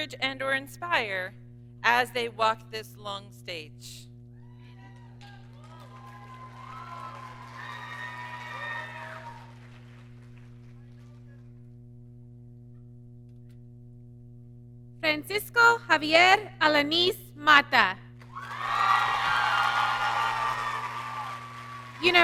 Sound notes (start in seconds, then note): 6.1 audience cheering; 18.2 audience cheering